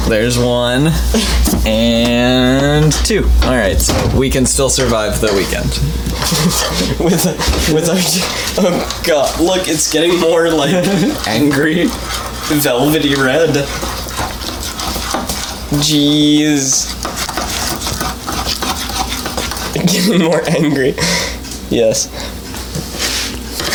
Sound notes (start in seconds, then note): 5.5 laughing; 13.2 stirring, glopping